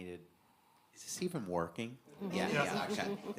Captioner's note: audience laughing